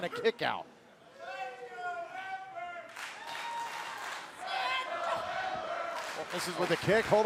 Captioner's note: crowd cheering